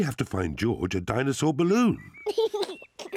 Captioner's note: giggles